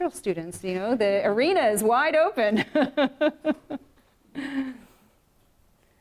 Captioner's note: laughs